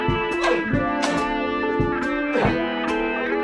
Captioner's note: clack, clack